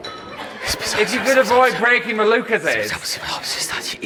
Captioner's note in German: murmelt